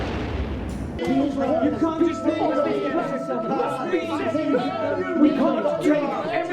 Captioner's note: explosion rumbles; overlapping chattering